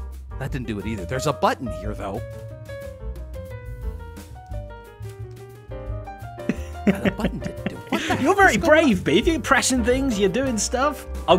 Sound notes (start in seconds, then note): 6.5 laughs